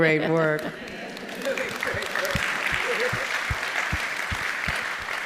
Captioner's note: audience applauding